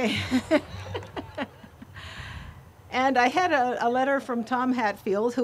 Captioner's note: group laughs